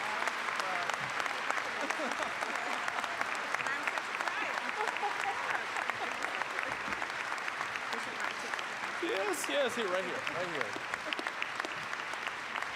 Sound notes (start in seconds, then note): 0.0 applause, cheering; 0.0 applause